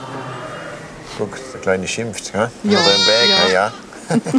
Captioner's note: the little lamb bleats loudly; they both laugh